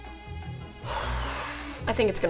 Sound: exhales deeply

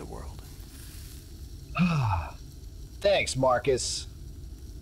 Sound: sigh

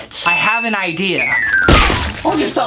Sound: loud thud

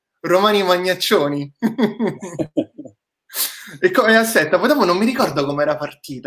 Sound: laughs

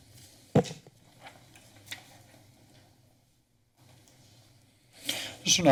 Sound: silent

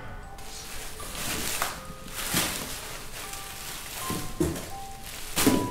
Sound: rustling through packaging

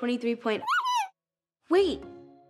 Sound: Kitty squeaks again

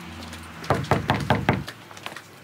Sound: knocking

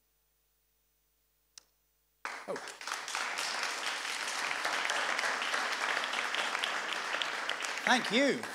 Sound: applause

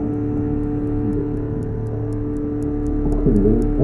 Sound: ticking

